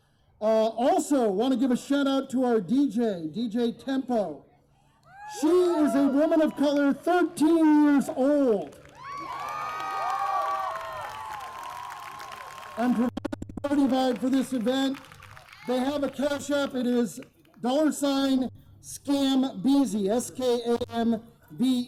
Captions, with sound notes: Also want to give a shout-out to our DJ, DJ Tempo she is a woman of color, 13 years old [cheers, applause] for this event, they have a cashapp it is $skambeezy